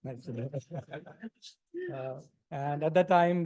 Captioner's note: laughter